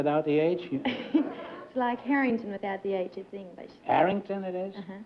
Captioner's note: laughs